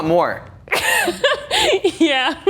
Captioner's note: laughs